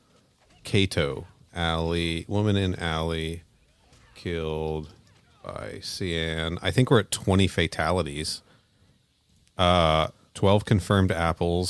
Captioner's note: typing